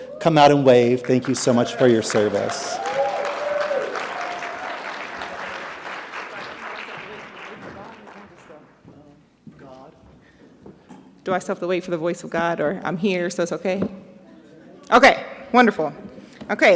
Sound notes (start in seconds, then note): 3.3 audience clapping